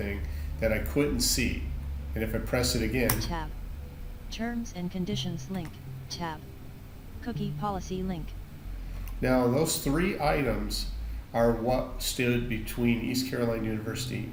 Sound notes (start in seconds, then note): 4.2 screendreader reads